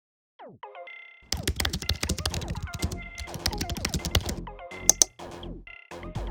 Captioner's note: keyboard clicks; upbeat music